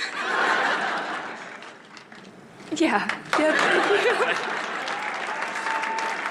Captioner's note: applause